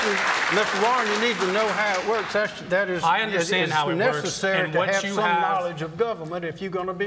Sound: cheering

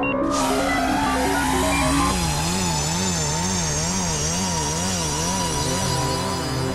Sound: electronics bleeping; dramatic synth music; electricity buzzing

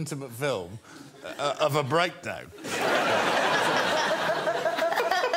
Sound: laughter

